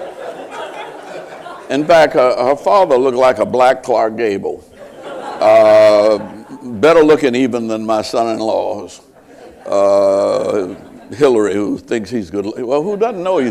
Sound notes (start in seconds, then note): 0.0 laughter